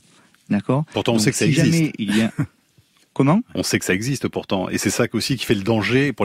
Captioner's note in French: Voix chasseur